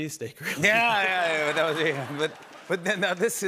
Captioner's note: laughter